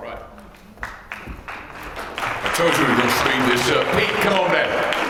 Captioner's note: applause